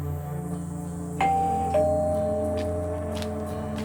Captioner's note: the doorbell rings